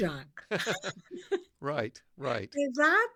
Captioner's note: laughs